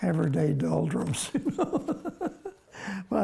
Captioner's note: laughs